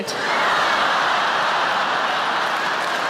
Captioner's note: audience laughing; audience applauding